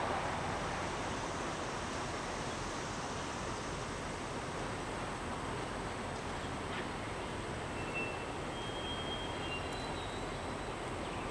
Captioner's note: wind blowing